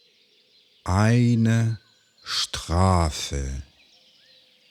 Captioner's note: german